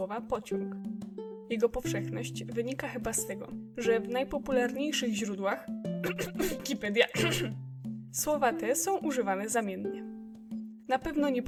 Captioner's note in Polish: khem